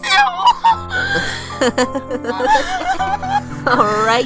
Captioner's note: chuckles heartily